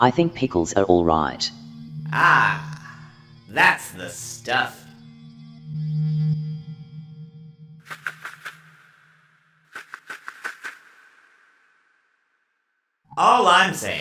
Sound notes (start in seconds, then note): 7.9 wings flapping